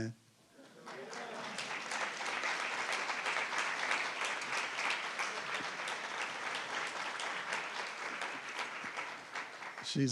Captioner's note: applause